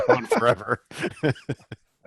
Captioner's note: laughs